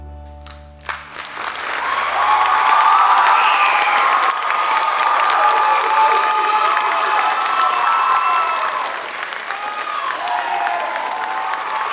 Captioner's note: applause